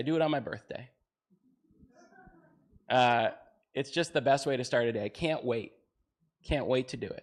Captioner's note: audience chattering